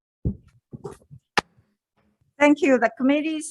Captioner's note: gavel bangs